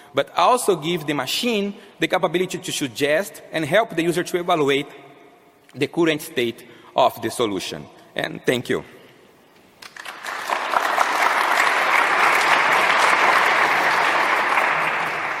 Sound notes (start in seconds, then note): 9.8 crowd applauds